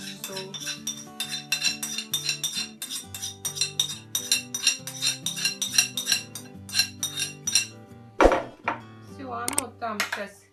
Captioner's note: beating a plate with a spoon